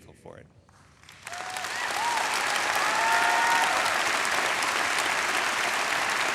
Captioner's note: audience enthusiastically applauding